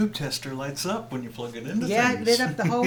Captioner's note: laughs